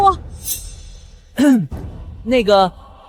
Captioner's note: cough